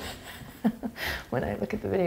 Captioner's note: chuckles